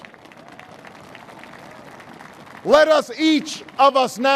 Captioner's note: applause